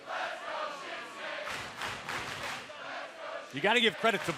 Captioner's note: fans chanting